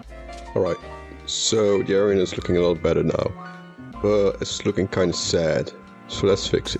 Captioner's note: rain effect